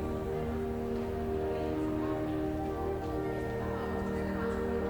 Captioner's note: students chattering